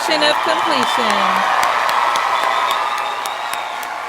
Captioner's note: audience cheering